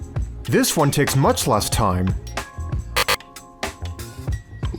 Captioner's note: buzzer